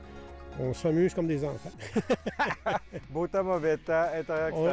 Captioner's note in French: rires